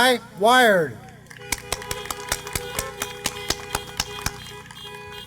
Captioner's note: applause